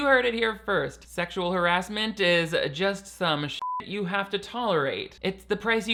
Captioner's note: beep